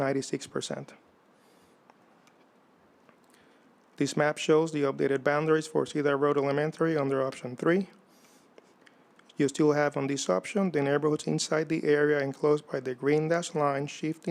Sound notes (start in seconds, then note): none